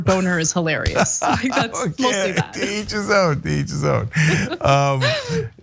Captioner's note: laugh